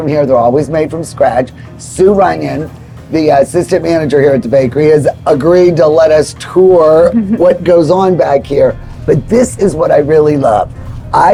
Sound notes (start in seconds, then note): 7.0 chuckling